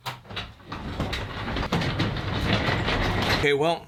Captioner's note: garage door rattling